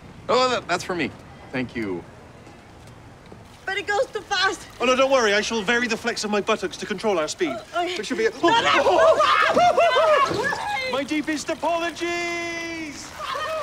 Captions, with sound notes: Oh, oh, oh! That's for me. Thank you. But it goes too fast! Oh, no, don't worry. I shall vary the flex of my buttocks to control our speed. We should be -- [ Laughs ] No! [ Whimpers ] My deepest apologies!